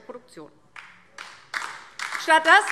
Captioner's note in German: Beifall DIE LINKE